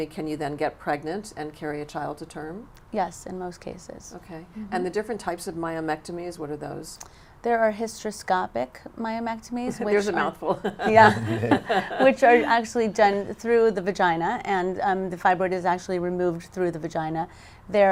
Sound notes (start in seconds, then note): 10.5 laughs